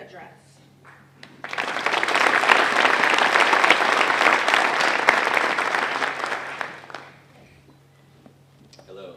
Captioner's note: applause